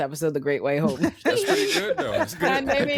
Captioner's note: laughing